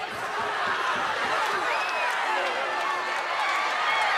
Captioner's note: audience cheering